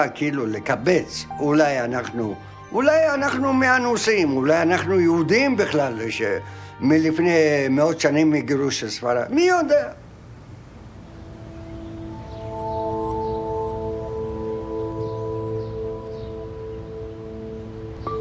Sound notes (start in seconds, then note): 11.2 birds chirping; 11.2 gentle music